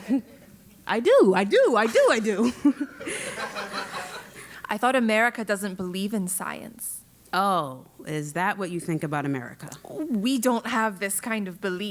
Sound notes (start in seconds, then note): 1.9 laugh